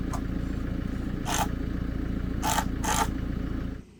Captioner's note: drill buzzing